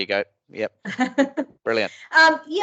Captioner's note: laughs